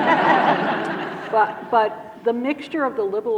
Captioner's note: audience laughing